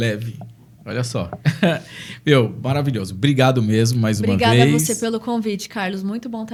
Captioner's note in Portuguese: risadas